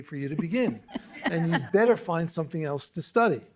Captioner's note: laughter